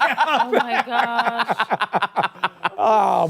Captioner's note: laughter